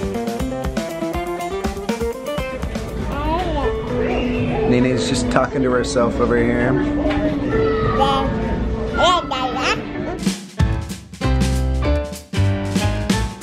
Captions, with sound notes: Nae Nae's just talking to herself over here. (baby talking) (lively music)